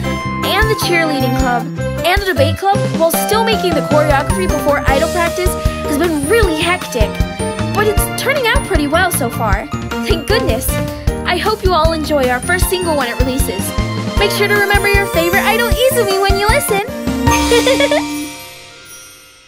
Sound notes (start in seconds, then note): 17.4 giggle